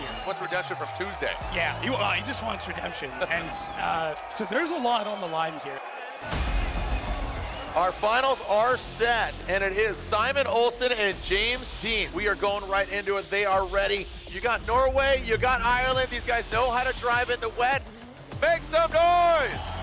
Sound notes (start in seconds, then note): 6.0 crowd cheering; 6.0 upbeat music; 19.6 crowd cheering